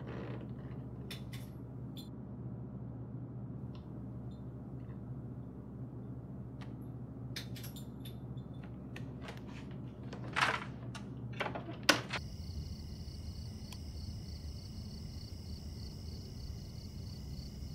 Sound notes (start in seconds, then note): 1.0 clicking; 7.3 clicking; 12.2 crickets chirping